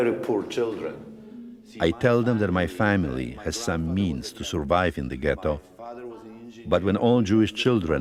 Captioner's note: voice-over